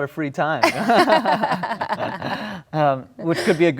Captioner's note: laughing